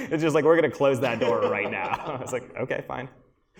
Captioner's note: laughter